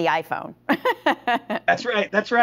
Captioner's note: laughing